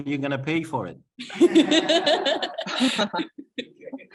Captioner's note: laughter